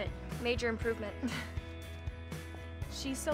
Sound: chuckles

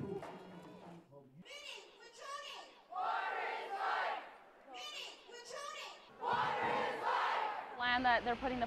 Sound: protesters' chants

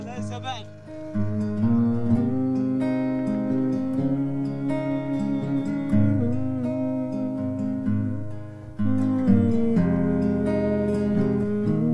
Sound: humming

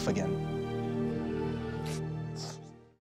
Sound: sniffles

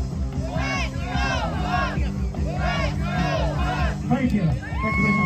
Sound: crowd cheering "Let's go Hawks!"

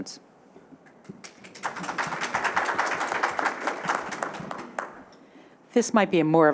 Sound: applause

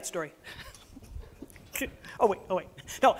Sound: laughs

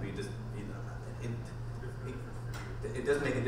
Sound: voiceover

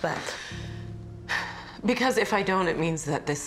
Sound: sighs

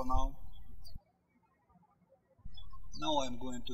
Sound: birds chirping

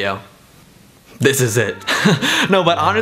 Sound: laughs

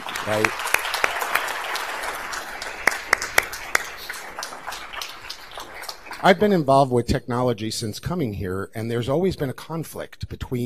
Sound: applause

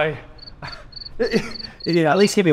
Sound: crickets chirping

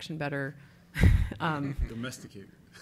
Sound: laughing

